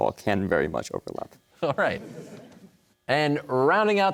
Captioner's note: audience laughter; chuckling